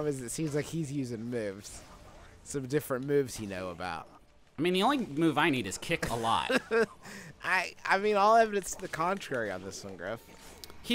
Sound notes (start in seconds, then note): 6.0 laughs